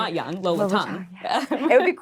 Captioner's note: laughing